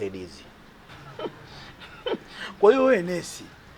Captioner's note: chuckles